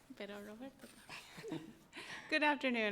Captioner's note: speaking in foreign language